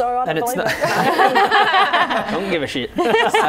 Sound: laughing

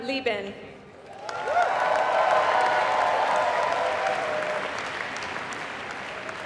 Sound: applause

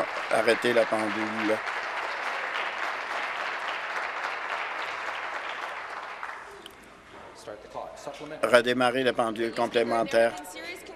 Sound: applause

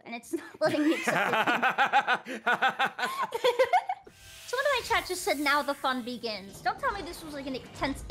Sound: laughs

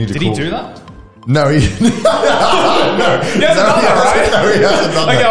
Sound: laughs

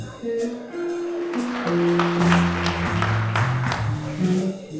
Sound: audience clapping while music continues; background jazz music plays with ambient crowd noises

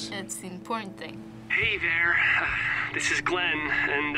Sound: Glenn, on walkie-talkie

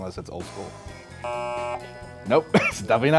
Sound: buzzes

